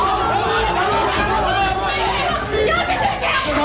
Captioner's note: students shouting